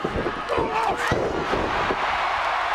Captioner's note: body thudding; crowd cheering